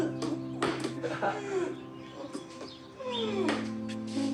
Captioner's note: laughs